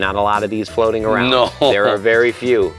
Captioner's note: laughs